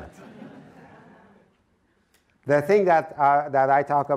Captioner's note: audience laughs